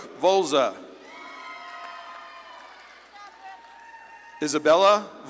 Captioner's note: audience claps and cheers